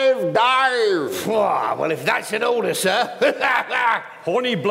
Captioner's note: guffaws